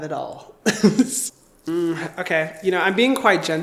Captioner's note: chuckling